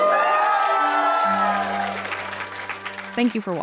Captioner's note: audience cheering and applauding